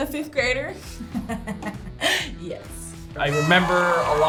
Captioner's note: laughs